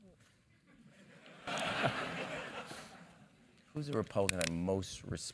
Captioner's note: laugh